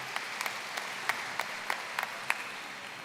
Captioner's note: applause